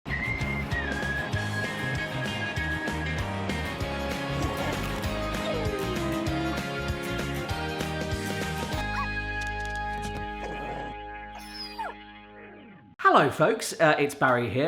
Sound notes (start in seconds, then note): 0.0 upbeat cheerful music; 9.0 yapping dog